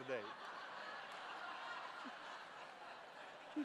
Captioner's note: laughter